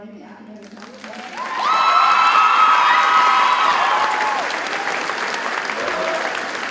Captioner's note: audience cheers and applauds